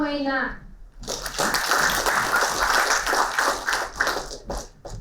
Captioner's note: applauding